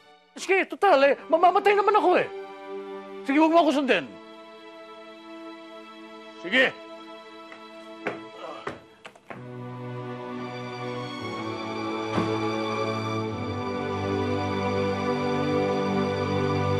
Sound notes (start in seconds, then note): 9.1 sad music playing; 12.1 door closes